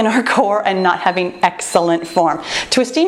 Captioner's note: timer beeps